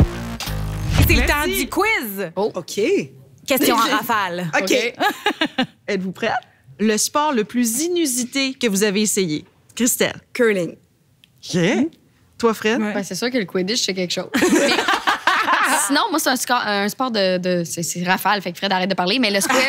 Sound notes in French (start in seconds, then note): 14.3 rires